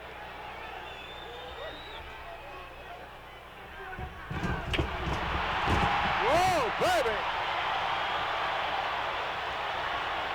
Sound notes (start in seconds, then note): 3.7 audience roaring